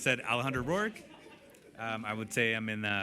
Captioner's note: laughter